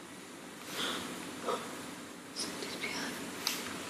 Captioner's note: gasping